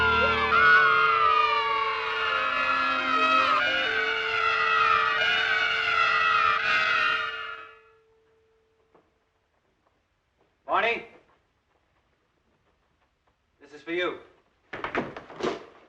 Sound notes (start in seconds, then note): 1.9 children Cheering